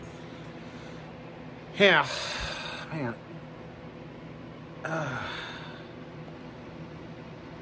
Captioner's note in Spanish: suspira